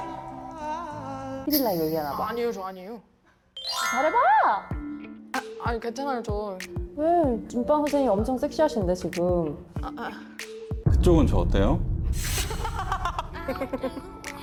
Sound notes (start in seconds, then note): 3.5 with a cheerful tone; 3.6 denying sound effect